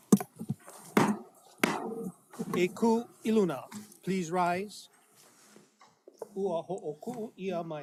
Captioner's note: gavel bangs twice